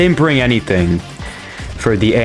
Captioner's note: inhales Oxygen